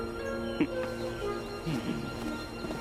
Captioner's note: chortles